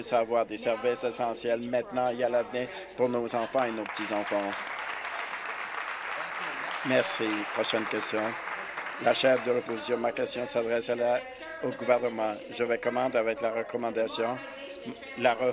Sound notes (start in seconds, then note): 7.1 applause